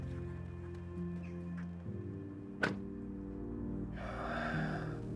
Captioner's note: car doors thudding; Igor sighing